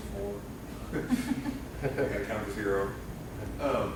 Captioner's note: laughing